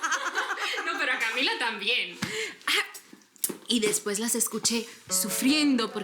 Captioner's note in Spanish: Carcajadas